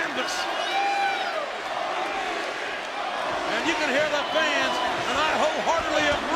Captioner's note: applause